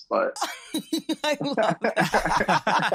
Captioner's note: all laugh